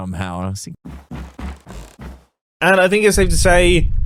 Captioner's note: footsteps